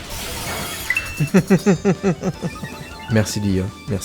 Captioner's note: laughs